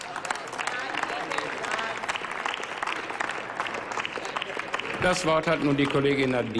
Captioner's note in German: Applaus